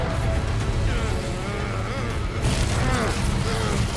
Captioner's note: tense music continues; grunting; powerful arcane crackling